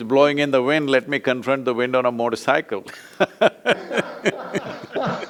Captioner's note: both laugh